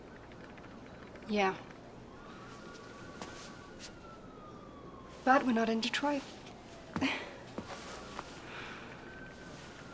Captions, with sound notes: - Yeah, but we're not in Detroit. (chuckles)